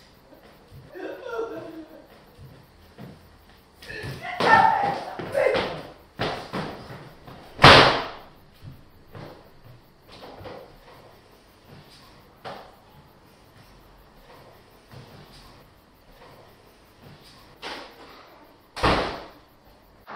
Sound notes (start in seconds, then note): 3.9 Trina yelling; 7.5 door slamming; 18.7 door shutting; 19.9 insects warbling